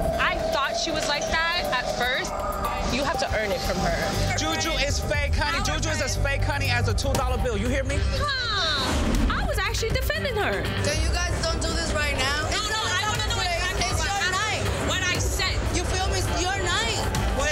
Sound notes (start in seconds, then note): 12.0 group arguing